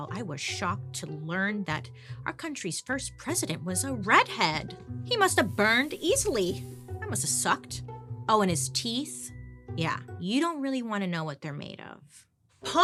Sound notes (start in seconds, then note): 5.3 skin sizzling